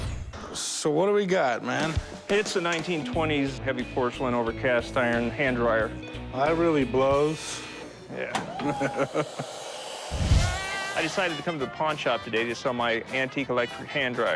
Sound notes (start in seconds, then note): 8.6 laughs